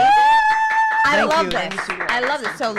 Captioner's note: cheers